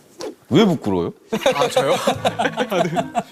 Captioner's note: haha